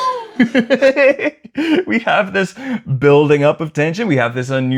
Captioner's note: laughter